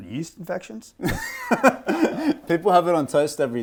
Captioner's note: laughing